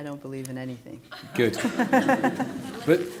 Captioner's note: laughter